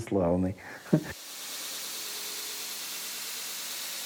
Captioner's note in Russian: шум станка